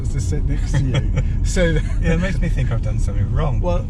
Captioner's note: laughing